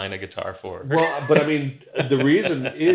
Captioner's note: laughs